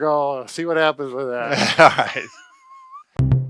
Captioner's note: chuckling; quirky music